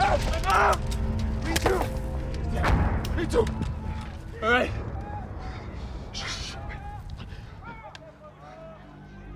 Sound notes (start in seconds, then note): 3.4 hushing the soldiers; 8.3 distant shouting